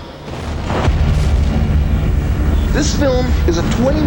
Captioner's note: bomb explodes